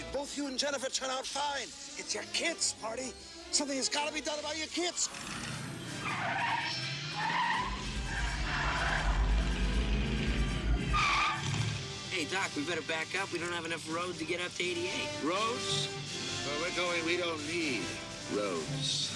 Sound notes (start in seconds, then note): 4.9 tires squealing; 9.9 engine revs; 9.9 tires screeching